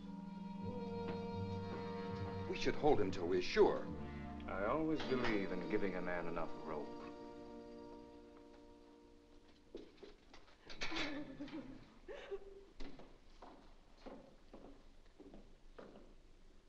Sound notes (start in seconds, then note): 0.2 ominous music; 10.6 cage door opens; 10.8 woman cries; 13.9 Charles' footsteps